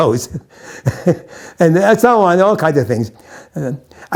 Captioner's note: chuckles